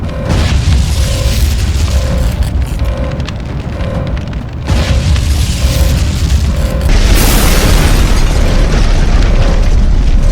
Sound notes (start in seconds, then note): 0.3 flames whooshing; 4.7 explosions booming